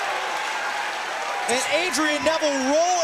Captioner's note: crowd cheering